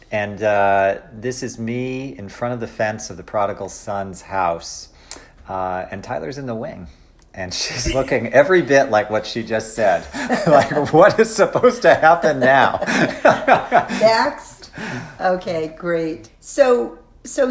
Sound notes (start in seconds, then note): 11.8 laughs